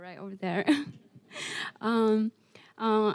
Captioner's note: giggling